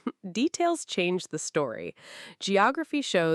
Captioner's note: laughs